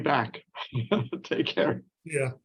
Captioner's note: chuckling